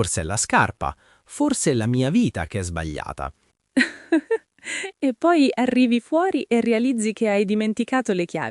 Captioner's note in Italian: risate